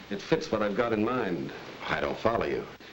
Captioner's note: none